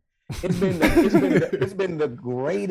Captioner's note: chuckling